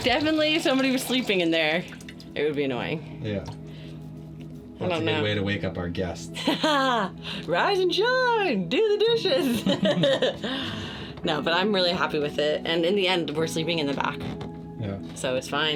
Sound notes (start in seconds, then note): 6.4 chuckles; 9.5 laughing